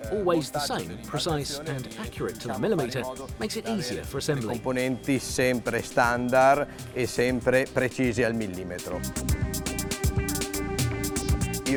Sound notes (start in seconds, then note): 4.7 speaks Italian; 9.2 upbeat music